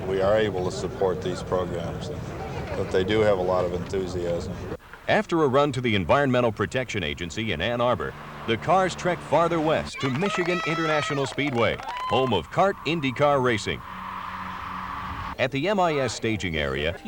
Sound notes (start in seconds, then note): 9.8 whistling, cheering applause; 13.4 car engine whirring